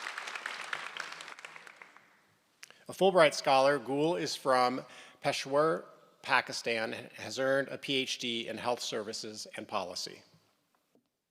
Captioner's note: applause